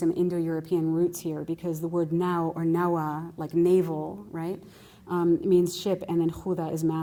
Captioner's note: non-english